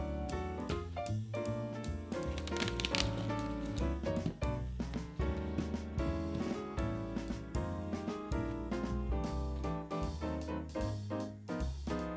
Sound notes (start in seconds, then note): 2.2 bag opening